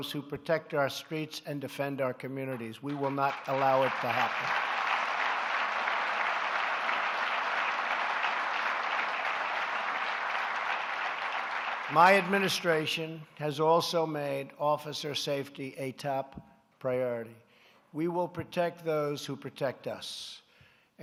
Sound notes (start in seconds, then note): 5.8 applause